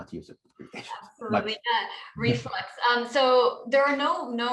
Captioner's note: laughter